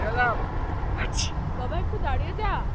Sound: sneezes

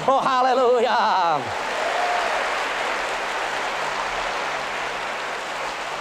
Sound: boisterous applause and cheering

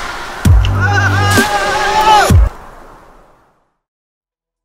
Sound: yelling

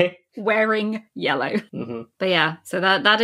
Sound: laughing

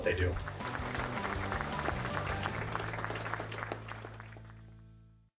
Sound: inspiring music; crowd clapping

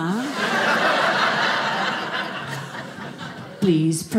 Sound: audience laughing

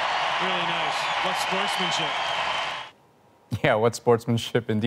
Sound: applause

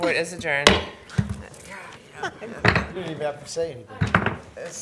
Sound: banging

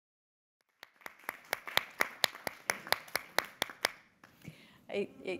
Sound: everybody clapping

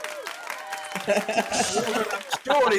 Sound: laughing

